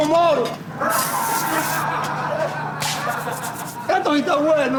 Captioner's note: crowd laughs